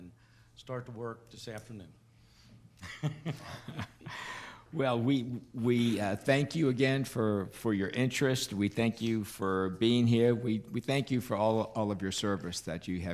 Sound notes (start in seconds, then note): 2.8 laughing